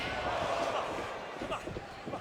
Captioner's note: crowd oohing